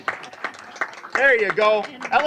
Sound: applause

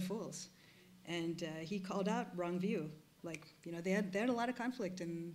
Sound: snaps fingers

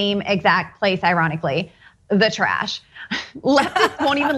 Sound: laugh

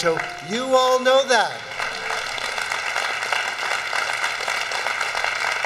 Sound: audience applauding

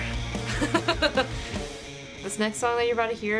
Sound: laughing

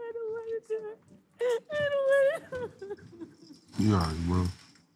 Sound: crying

